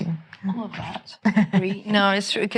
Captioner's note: laughing